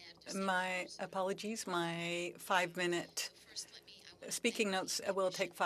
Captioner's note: speaking french